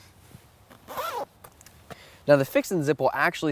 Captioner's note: zipper hissing